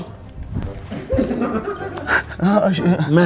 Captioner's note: laughing